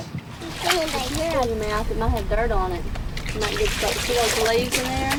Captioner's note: water swooshes